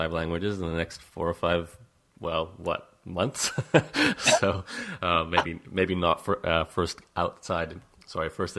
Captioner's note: laughs